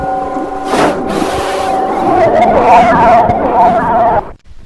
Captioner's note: screaming